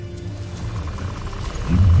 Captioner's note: powerful whoosh-crackle